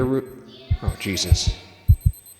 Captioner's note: timer beeping